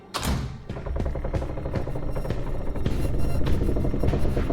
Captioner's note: wooden boards creaking